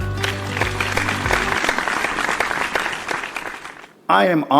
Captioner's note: applause